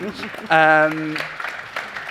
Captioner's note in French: applaudissements